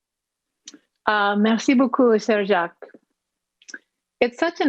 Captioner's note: speaking in foreign language